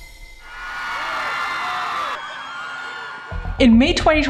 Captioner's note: crowd cheering